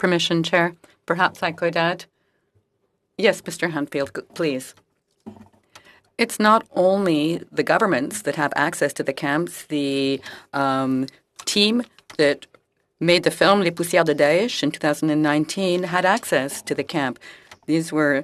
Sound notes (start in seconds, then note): 4.4 speaking French